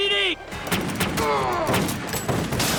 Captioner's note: grunts